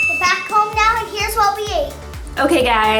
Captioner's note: happy Voice